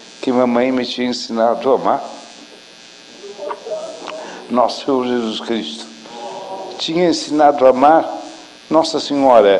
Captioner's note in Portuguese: emociona-se